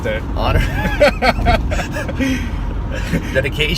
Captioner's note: laughs